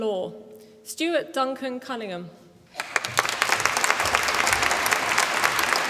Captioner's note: applause